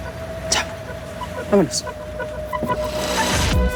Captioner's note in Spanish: Portazo